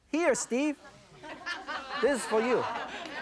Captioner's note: audience laughs